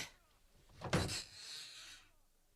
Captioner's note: SFX: door closes